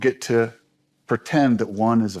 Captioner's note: none